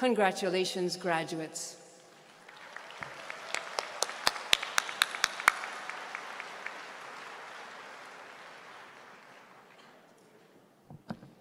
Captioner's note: applause